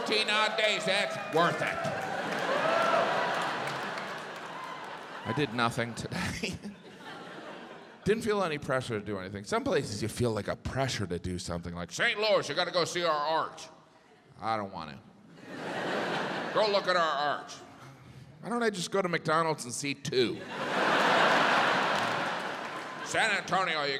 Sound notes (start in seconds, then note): 3.4 audience laughs, cheers